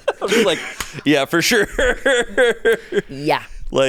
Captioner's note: laughs